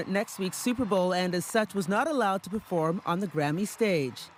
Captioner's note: applause